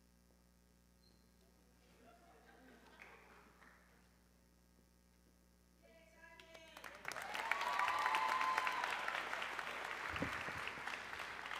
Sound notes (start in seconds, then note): 6.9 audience cheering